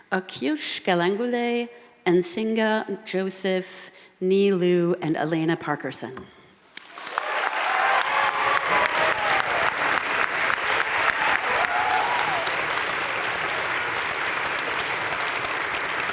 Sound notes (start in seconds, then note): 6.8 audience cheering and applauding